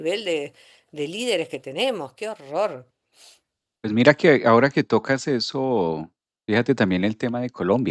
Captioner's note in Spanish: resoplido